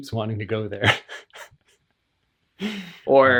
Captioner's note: laughs